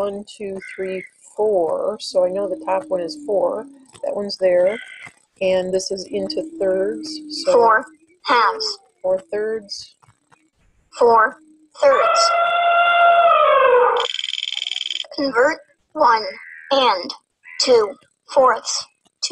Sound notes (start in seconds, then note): 8.0 voiceover; 11.0 voiceover; 11.7 elephant trumpeting; 14.0 wheel clicking; 15.4 voiceover